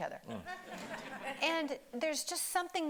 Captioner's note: audience laughing